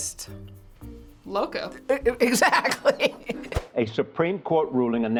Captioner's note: laughs